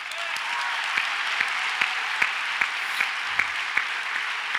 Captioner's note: audience applauds